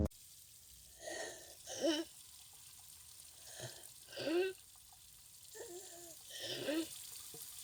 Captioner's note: wheezing